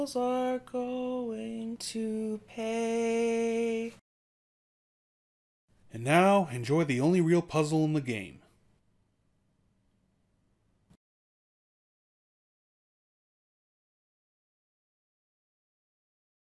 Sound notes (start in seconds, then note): none